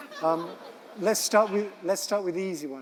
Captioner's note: audience laughing